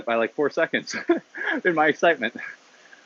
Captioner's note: laughs